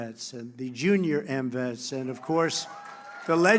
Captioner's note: applause